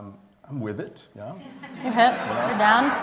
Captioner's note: laughter